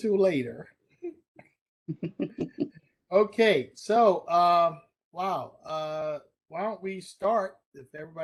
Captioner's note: laughter